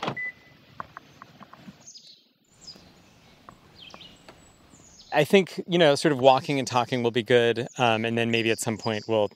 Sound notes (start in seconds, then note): 2.0 birds chirping